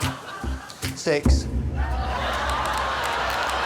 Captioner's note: laughter